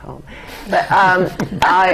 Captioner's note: laughter